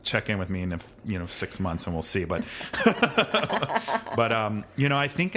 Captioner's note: laughs